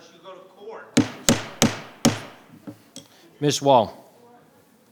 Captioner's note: gavel bangs